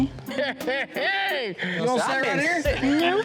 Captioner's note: cackling